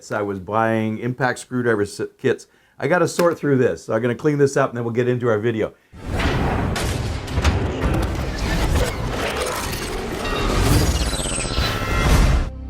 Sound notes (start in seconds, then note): 6.0 metal door slams